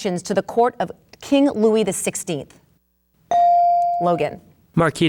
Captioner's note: bell dings